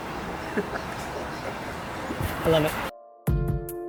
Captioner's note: chuckling